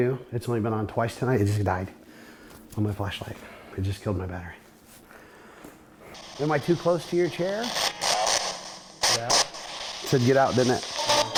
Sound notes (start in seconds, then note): 6.2 spirit box scanning; 8.0 spirit box voice